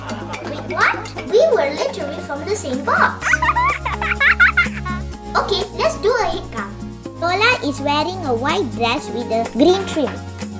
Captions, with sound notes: Wait, what! We were literally from the same box. [Children giggling] Ok let's do a headcount . Rolla is wearing a white dress with a green trim.